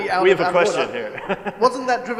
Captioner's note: laughs